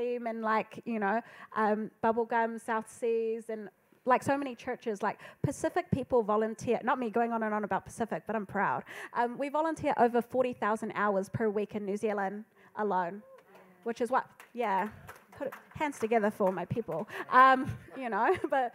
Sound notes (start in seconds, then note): 14.4 audience applauding